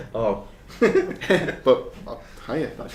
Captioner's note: laughing